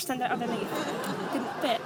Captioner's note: audience laughs